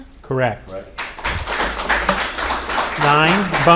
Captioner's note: audience applauding